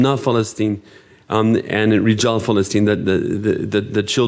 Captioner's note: speaking in foreign language